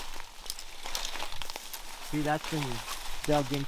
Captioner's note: brush rustling